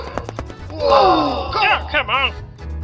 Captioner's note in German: kollektives Keuchen